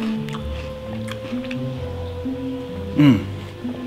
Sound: munching; slurps

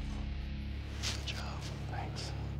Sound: whispers

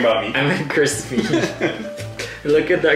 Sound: laugh

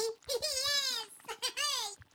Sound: chuckling

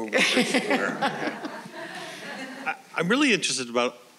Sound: all laughing

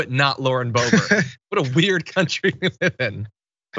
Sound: laugh

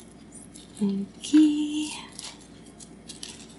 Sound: in sing - song voice

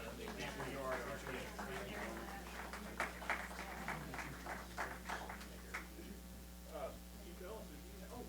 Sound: applause

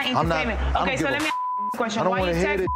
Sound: beep

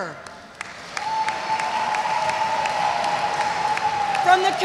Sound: audience cheers

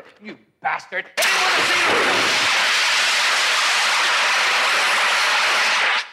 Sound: gas hisses

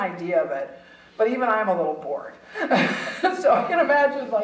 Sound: chuckling

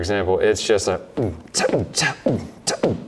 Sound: beatboxes

